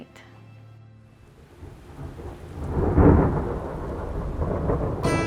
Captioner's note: thundering